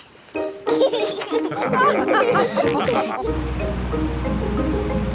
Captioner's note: all laugh